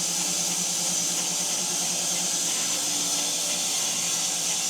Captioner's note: saw buzzing continues